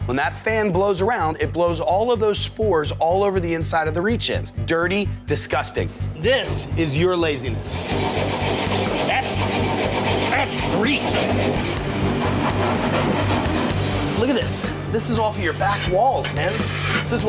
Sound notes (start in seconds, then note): 7.9 spatula scraping